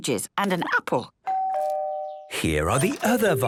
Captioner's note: doorbell rings